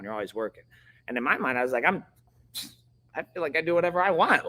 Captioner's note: scoffs